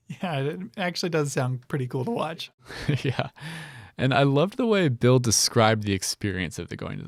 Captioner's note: laughs